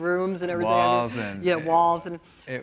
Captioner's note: laughs